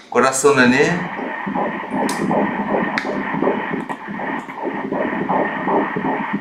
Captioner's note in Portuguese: batimentos cardíacos